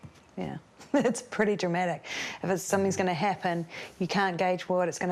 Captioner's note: chuckles